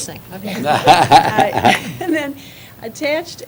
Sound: laughter

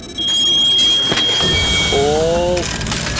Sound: buzzing

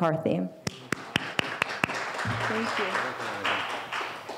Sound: applauding

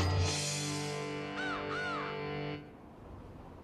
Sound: crow cawing

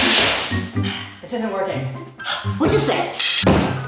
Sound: sighs; gasps

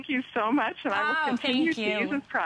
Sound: laughter

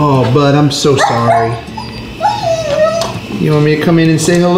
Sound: Ranma whining

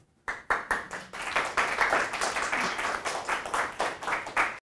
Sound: audience applauding

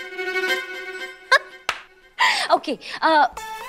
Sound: laughs

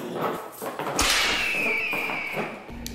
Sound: slap

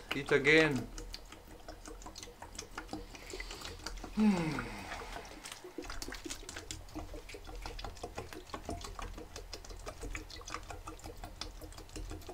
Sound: some more water gurgling

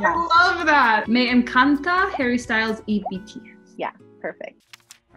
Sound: speaking Spanish

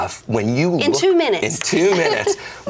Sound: laughs

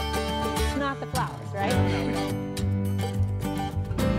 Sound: laughs

